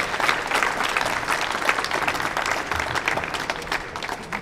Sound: audience applauding

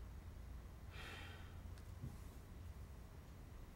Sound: exhale

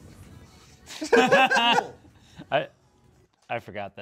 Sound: laugh

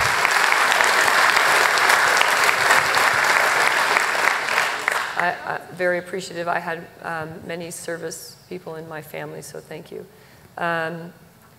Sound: applause

